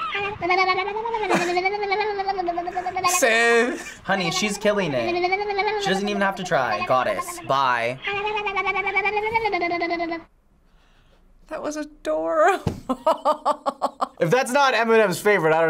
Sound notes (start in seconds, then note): 0.0 baby babbling rapidly; 2.8 chuckles; 7.9 baby babbling rapidly; 12.8 laughs